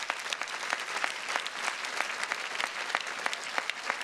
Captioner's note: audience applauding